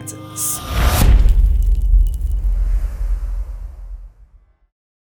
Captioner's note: impact